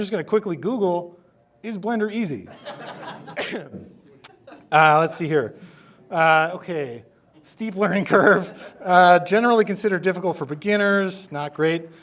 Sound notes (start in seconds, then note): 2.5 audience laughing